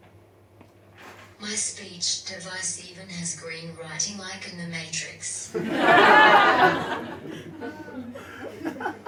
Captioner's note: audience laughs